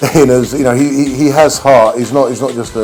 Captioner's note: laughs